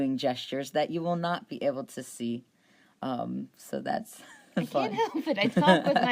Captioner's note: laughs